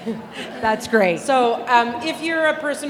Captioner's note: audience laughing